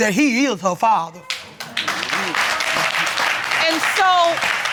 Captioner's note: audience applauding